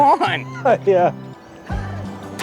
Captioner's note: laughs